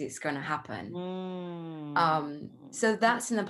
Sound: humming in agreement

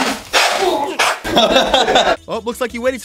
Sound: laughing

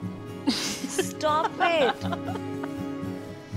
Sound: Peeplika laughing

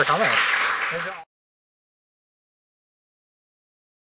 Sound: applause

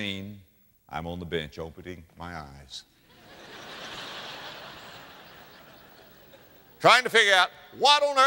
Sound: audience laughter

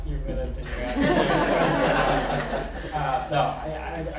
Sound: laughter

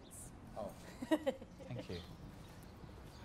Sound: laughing

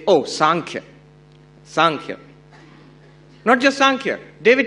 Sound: non-english speech

